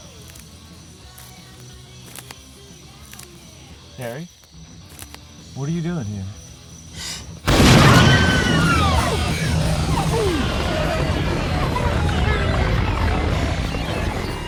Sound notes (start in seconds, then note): 7.4 gunshot; 7.6 Karen screams; 10.5 distorted music